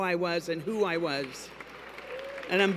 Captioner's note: applause